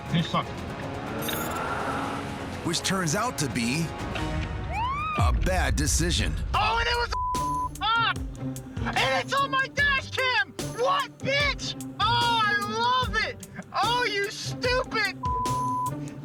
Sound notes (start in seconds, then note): 4.7 siren wails